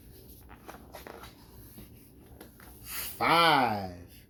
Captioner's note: paper rustles